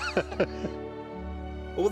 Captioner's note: all laughing